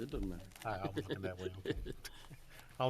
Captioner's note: laughing